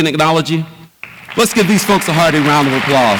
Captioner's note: audience applauds